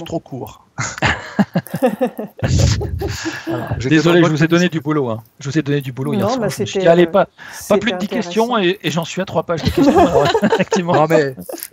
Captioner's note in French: rires